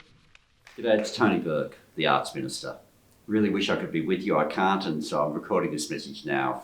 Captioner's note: applauses